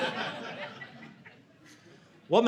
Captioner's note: audience laughing